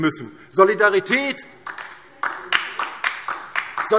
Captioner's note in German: Beifall DIE LINKE